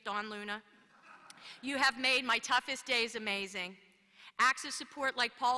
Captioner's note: laughter